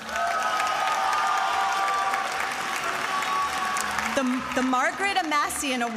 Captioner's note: attendees applauding and cheering